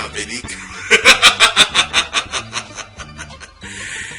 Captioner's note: evil laughter